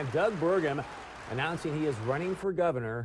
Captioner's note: applause